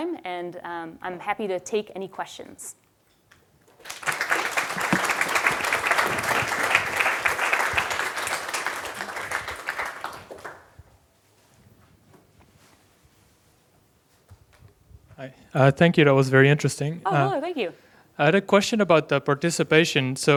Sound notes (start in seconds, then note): 3.7 applause